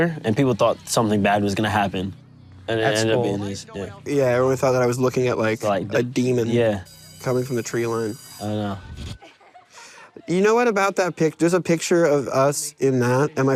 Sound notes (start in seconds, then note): 6.8 bell ringing